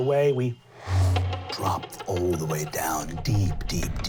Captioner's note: powerful inhale; sharp inhale